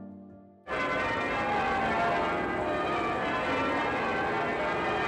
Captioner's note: church bells ringing